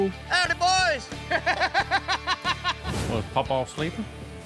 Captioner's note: laughter